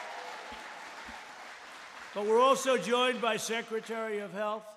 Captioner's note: laughter and applause; applause